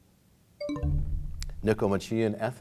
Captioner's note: bell chimes, time expires